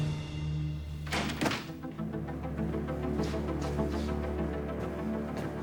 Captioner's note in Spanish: sonido al abrir la puerta